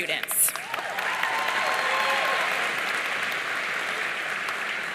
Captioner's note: audience cheering